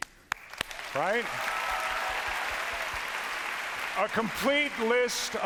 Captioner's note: cheers and applause